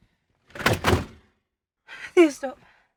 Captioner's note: blinds rolling